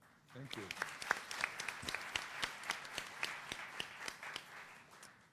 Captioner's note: applause